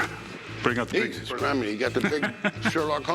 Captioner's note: laughs